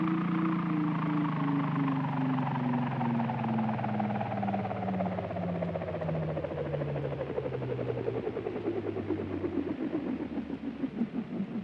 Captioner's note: aircraft powers down